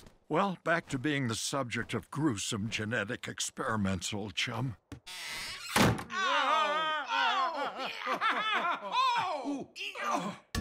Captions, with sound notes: - Well back to being the subject of gruesome genetic experiments old chum. (door closes) (Adam and Burt scream and groan)